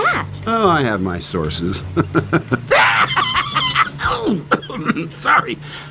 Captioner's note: wretched laughter; cough